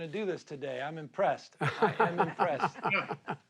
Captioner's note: laughs